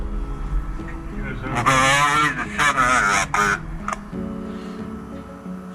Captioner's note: radio crackling